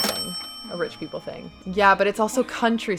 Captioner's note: cash register ringing